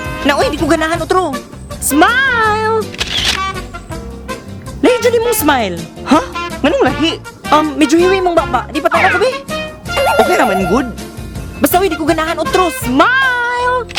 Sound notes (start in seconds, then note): 2.9 camera clicks